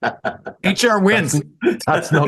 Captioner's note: laugh